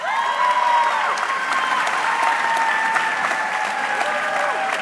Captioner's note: audience cheering